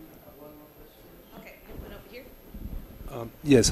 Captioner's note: quietly talking